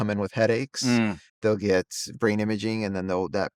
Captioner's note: hums